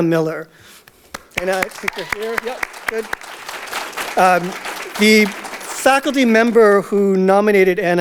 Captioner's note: audience Applause